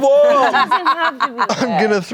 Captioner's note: laughs